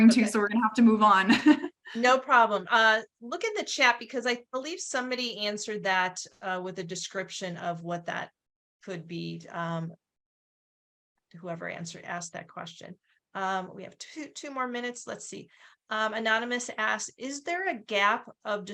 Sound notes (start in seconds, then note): 1.3 chuckles